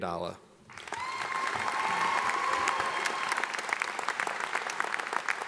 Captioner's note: audience applauding